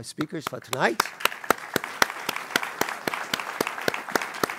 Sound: applause

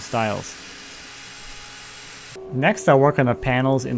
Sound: saw buzzing

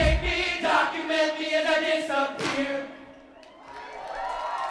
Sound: clap

